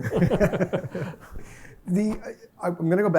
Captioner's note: laughter